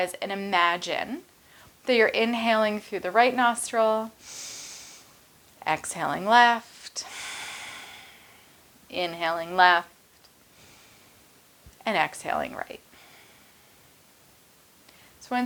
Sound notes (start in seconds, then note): 4.2 inhales; 7.7 exhales; 10.7 inhales; 12.9 exhales